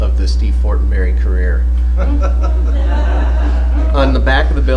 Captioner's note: laughter